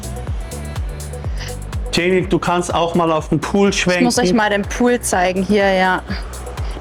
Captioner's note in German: schnauben